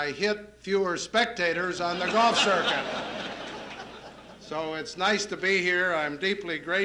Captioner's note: laughter